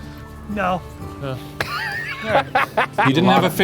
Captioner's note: laughs